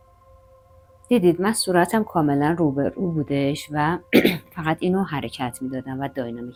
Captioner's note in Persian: گلویش را صاف می‌کند